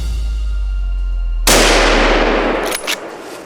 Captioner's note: gunshot